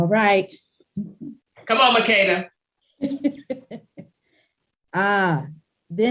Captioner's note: laughing